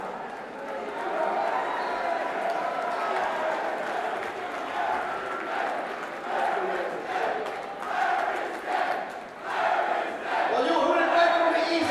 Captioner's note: crowd cheering